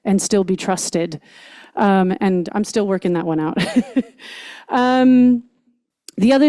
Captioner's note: chuckles